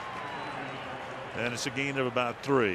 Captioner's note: pa announcement